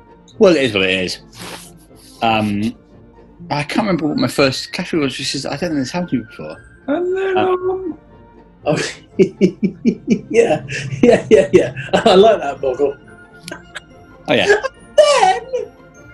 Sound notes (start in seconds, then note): 6.9 high pitched; 8.7 chuckling; 14.9 high pitched